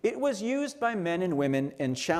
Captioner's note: none